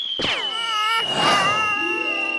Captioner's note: crying